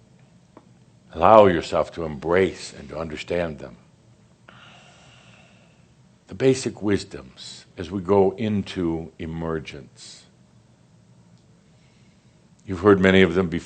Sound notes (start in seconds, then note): none